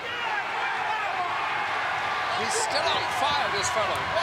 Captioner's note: crowd cheers